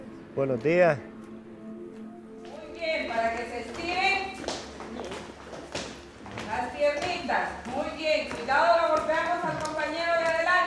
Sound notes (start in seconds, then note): 0.6 speaking foreign language; 2.9 instructor speaking foreign language